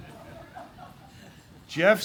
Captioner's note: laughter